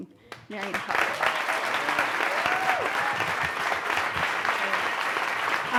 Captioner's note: audience claps and cheers